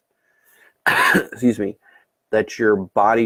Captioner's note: coughs